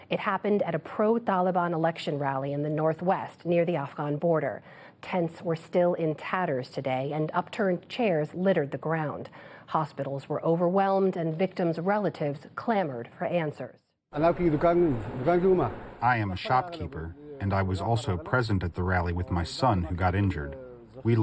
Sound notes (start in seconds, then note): 15.6 through translator